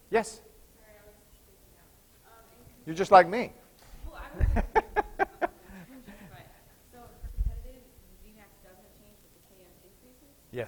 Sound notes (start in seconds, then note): 4.2 laughter